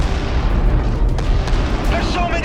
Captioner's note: explosions booming